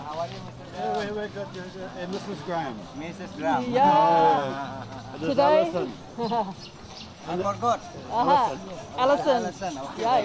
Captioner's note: laughing